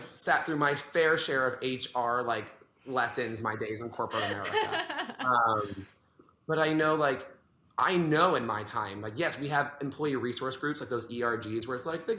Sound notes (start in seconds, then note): 4.0 laughs